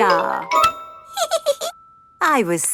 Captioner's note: giggles